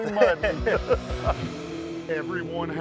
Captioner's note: laughter